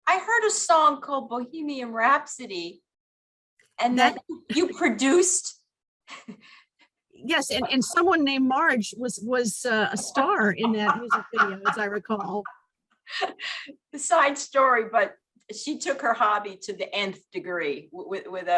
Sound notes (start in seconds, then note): 12.8 laughs